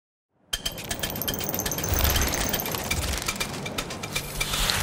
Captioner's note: sound effects